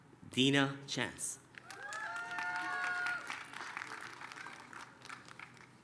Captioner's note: applause, cheering